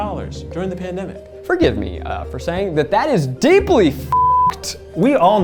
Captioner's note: beep